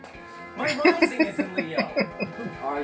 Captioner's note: laughing